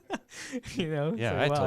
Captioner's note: laughs